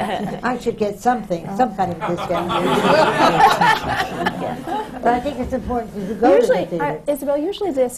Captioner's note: laughter